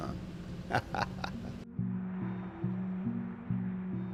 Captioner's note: laughs